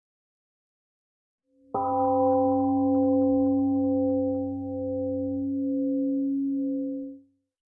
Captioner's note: temple gong rings and fades 🎵